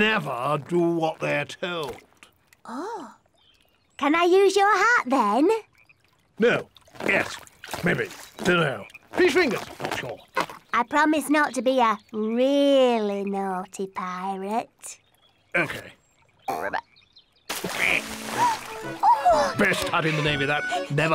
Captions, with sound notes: Never do what they're told. Oh. Can I use your hat, then? No. Yes. Maybe. Don't know. Fish fingers. Not sure. I promise not to be a really naughty pirate. - OK. - (croaks) - Oh! - Best hat in the navy, that.